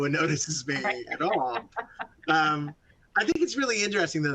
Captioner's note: laughing